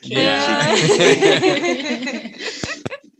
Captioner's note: all Laughing